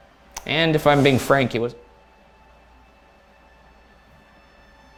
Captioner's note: whooshing